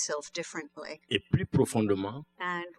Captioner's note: speaking french